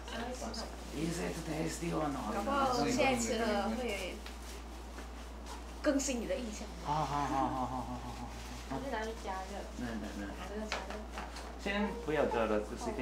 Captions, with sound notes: Is it tasty or not? (speaking in foreign language) And now it has further updated your impression (laughing) Does it need to be warmed up?